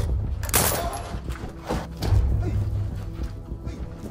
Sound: gunshots fired

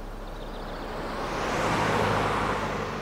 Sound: none

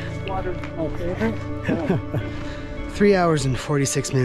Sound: chuckles

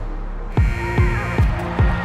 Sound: buzzer blaring; crowd cheering

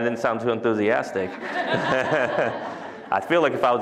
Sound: laughter

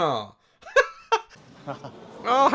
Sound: laughs

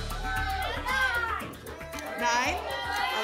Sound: audience shouting numbers

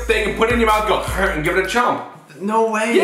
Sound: imitates chewing

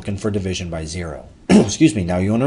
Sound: clears throat

